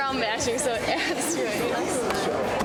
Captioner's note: laughing